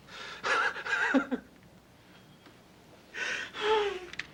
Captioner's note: Casey laughs